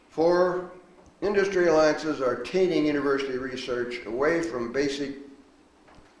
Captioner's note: none